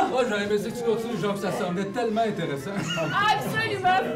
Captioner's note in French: Rires